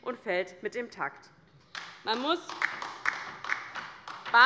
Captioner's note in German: Beifall bei der LINKEN